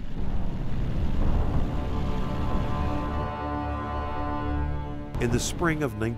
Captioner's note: plane engine revving; dramatic music